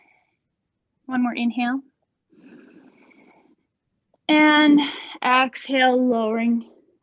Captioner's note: inhaling